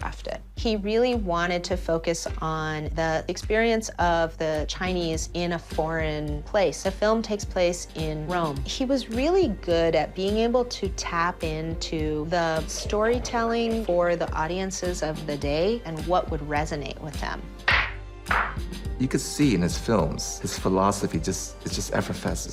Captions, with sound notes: He really wanted to focus on the experience of the Chinese in a foreign place. The film takes place in Rome. He was really good at being able to tap into the storytelling for the audiences of the day and what would resonate with them. (CLAP) You could see in his films, his philosophy just, it just effervesces.